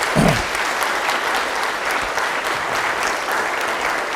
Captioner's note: audience applauding